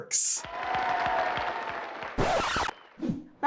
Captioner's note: crowd cheering; record scratch